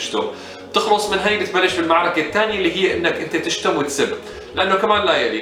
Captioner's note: using foul language